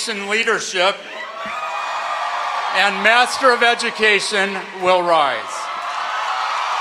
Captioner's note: cheering